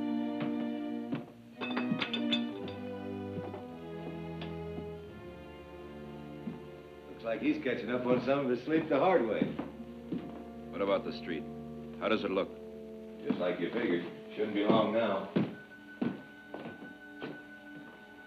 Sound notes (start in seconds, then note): 1.5 dishes clatter; 15.7 tense music